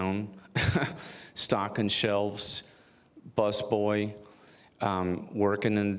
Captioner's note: chuckles